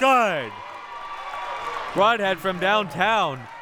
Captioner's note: audience applauding and cheering